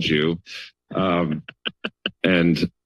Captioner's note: chuckles; laughter